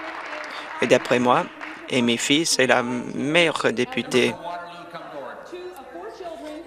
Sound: applause

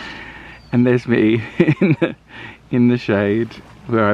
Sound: chuckles

